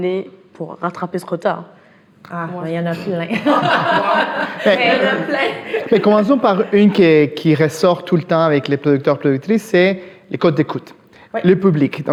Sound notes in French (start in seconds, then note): 3.0 rires